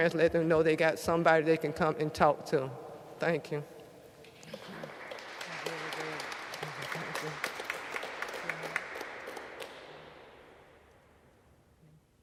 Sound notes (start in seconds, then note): 4.4 audience applauds